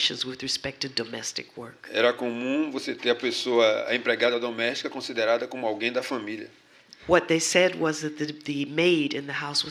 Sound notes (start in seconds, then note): 4.6 speaking portuguese